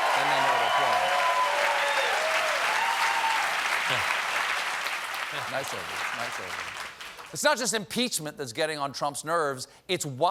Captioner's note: cheers and applause